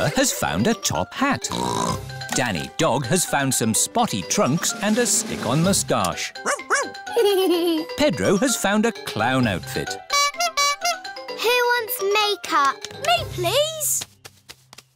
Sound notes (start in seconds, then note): 1.5 snorts; 7.0 giggles; 10.0 toots horn